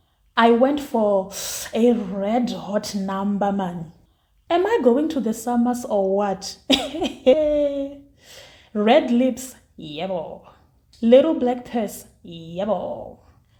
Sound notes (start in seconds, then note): 6.7 laughs